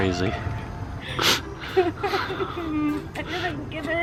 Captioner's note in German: jammert